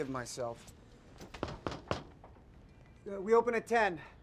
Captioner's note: soft knocking